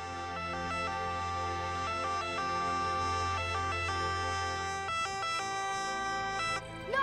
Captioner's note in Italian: sirena ambulanza